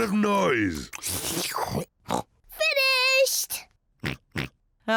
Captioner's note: oinks and laughs; slurps and oinks; oinks